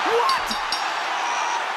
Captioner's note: bell rings